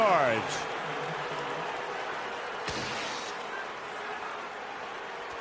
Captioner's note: crowd clamoring